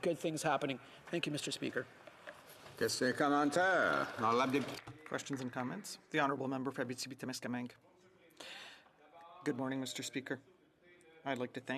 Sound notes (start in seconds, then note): 7.7 speaking French